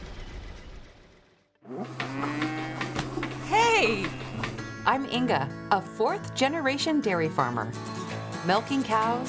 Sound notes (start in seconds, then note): 1.6 cows mooing